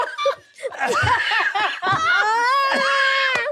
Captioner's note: all laughing